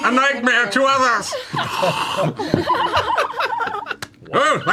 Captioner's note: laughter